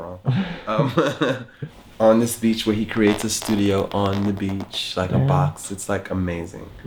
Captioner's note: laughs